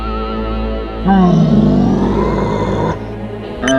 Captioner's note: zombie bride roaring